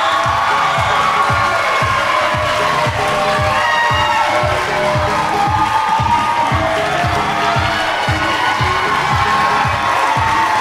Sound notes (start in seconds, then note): 0.1 audience cheering; 3.7 audience clapping; 7.5 audience cheering